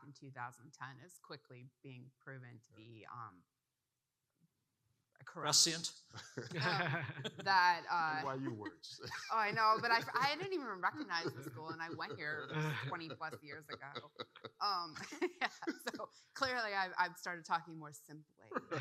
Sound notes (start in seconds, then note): 6.5 participants laughing; 14.3 laughing